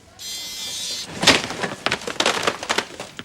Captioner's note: beeping